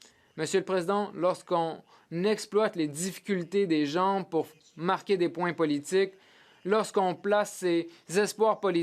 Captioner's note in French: voix de l'interprète